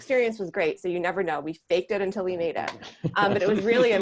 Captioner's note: laughing